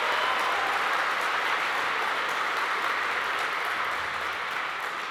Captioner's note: audience applauds